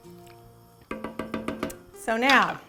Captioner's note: hitting